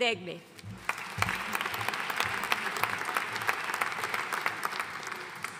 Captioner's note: audience applauding